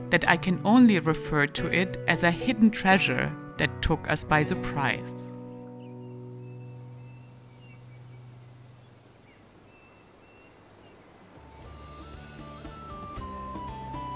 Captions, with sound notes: that I can only refer to it as a hidden treasure that took us by the prize. (birds tweeting) (lively music)